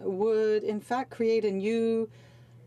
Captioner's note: speaking French